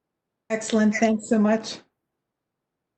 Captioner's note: silence